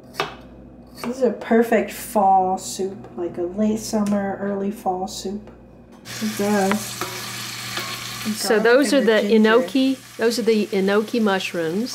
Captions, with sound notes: This a perfect fall soup, like a late summer, early fall soup, (sizzling) So, those are the enoki... those are the enoki mushrooms,